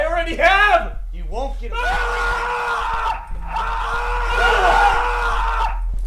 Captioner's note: Chris screams